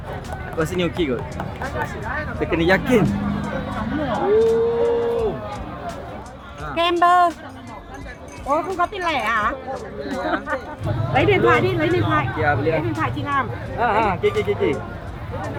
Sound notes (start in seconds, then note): 6.4 speaking Vietnamese; 9.9 laugh; 13.0 speaking Vietnamese